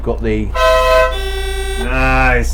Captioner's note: horn